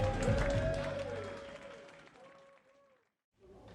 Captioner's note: group clapping